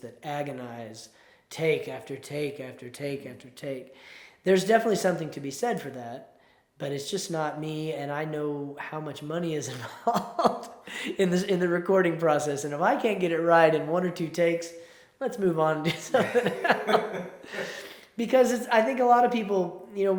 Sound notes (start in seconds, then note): 9.8 chuckles; 15.8 both laugh